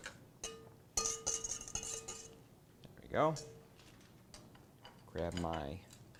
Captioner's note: pan clanking